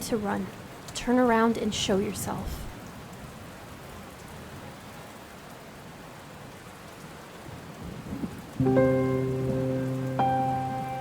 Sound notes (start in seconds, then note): 3.0 rain splashing; 8.6 somber music